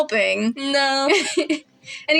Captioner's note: laugh